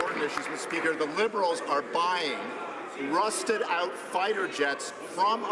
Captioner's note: some Applause